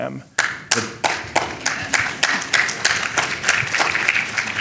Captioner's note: audience clapping